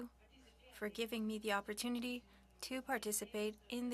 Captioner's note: speaking French